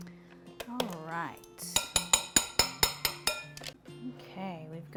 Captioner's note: spoon clanging